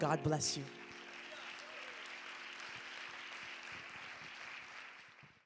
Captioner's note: audience claps and cheers